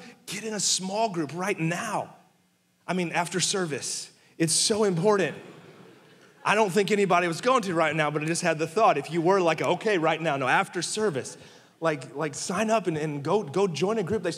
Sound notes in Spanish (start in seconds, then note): 5.2 la congregación se rie